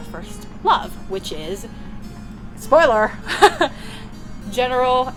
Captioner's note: laughter